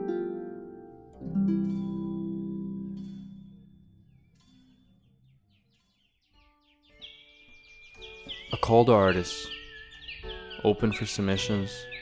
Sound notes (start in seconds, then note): 7.1 birds chirping